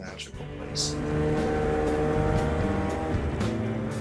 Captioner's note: engine roaring